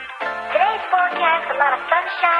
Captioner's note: upbeat music; deep Voice; high Pitched Voice